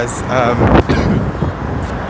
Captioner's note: coughs